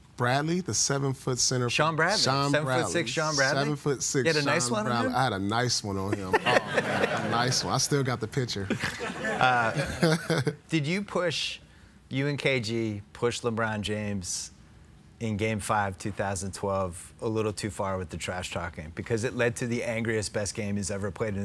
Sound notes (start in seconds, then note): 6.0 laughs; 8.6 laughter